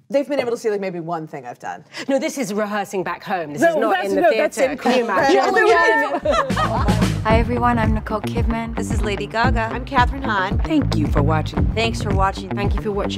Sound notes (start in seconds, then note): 5.3 panel laughs; 6.2 upbeat techno music